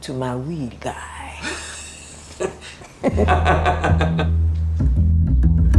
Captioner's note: laughter